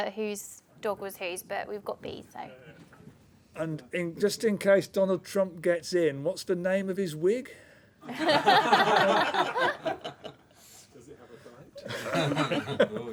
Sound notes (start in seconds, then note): 8.0 laughter; 11.8 laughter